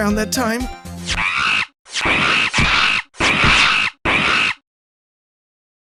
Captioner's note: monkey screeching, crashing sounds!